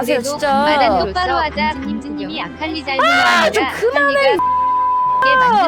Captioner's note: beep